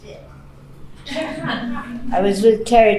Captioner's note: laughing